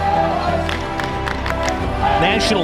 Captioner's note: cheering